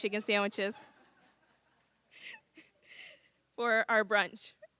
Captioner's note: laughter